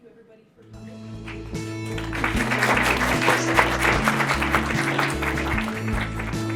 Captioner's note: audience applauses